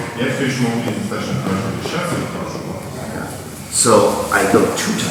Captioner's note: speaking in a foreign language